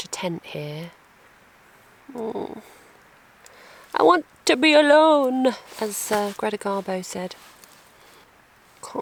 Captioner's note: groan